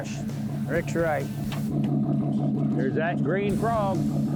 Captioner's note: boat engine chugging